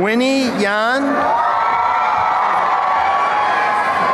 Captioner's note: applause and cheering